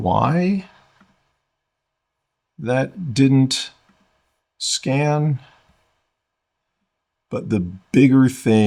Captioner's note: silence